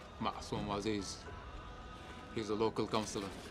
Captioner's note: speaks in foreign language